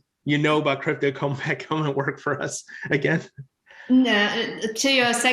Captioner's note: laughs